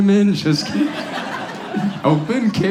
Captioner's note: audience laughs